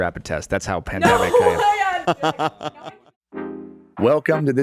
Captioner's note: laughing; bright upbeat music